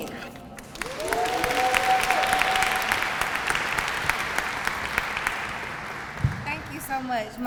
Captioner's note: applause